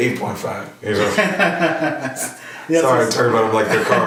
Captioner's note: laughing